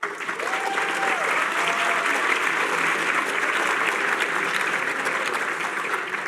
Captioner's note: applause